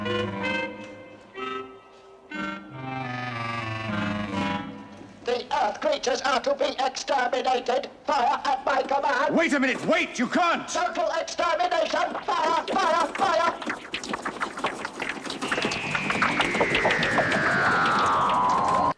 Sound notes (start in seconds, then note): 13.4 strange, sucking sound effects